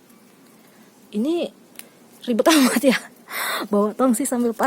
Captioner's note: laugh